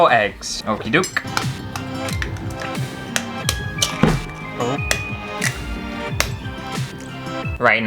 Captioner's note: eggs Cracking